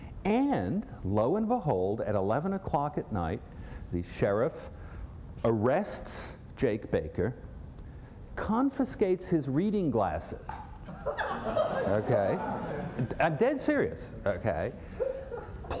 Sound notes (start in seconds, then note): 10.8 laughter